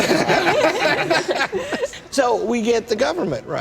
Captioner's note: laughter